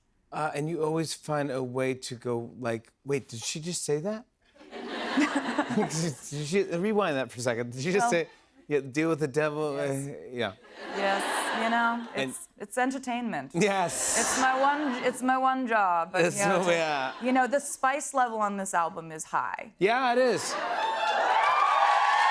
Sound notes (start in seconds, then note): 4.6 laughter; 16.7 laughter; 20.4 cheers and applause